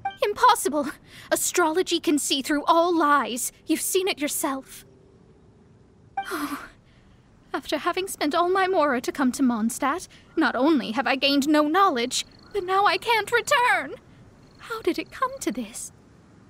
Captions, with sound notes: Impossible. Astrology can see through all lies — you've seen it yourself. *sigh* After having spent all my Mora to come to Mondstadt, not only have I gained no knowledge, but now I can't return... How did it come to this...